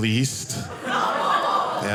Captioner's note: audience laughing